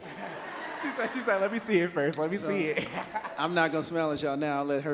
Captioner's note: laughs